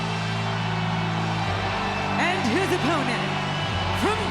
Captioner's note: crowd cheering